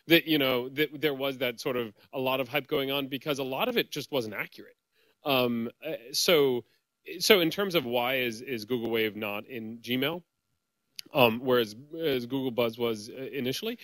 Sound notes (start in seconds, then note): none